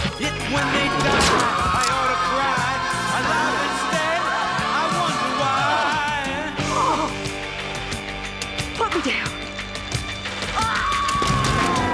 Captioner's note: gasping; screaming